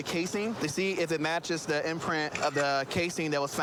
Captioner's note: camera app clicks